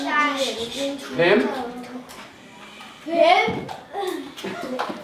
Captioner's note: foreign language